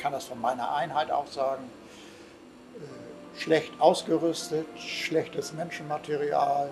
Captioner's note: continues speaking in German